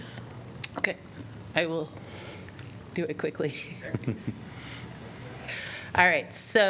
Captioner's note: laughter